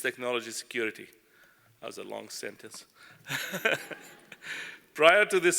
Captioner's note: laugh